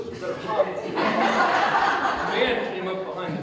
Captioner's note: audience Laughter